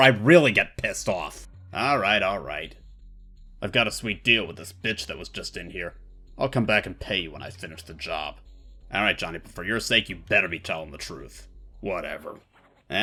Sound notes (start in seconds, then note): 3.5 tough guy voice; 11.7 tough guy voice